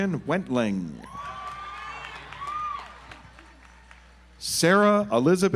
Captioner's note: audience applauds